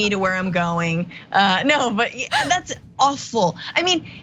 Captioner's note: laugh